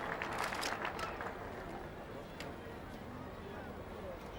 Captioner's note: cameras clicking